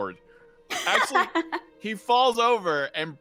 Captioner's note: laughing